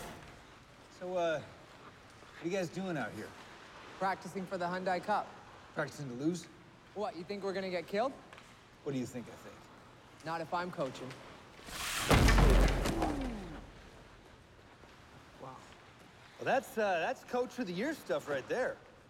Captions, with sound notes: So, uh, what are you guys doing out here? - Practicing for the Hyundai Cup. - Practicing to lose? - What? You think we're going to get killed? - What do you think l think? - Not if l'm coaching. (thud) - Ooh! - Wow. - That's uh, that's "coach of the year" stuff right there.